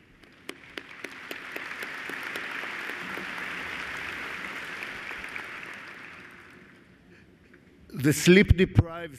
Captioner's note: applause